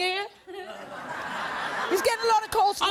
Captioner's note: audience laughing